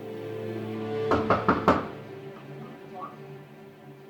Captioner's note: door knocking